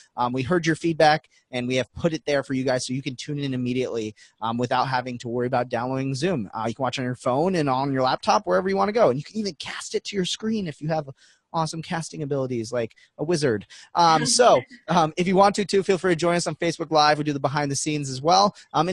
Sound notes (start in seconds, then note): 14.2 laughing